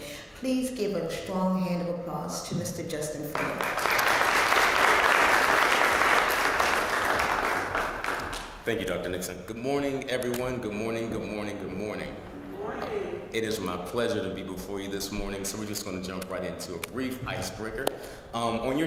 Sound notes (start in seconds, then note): 3.3 applause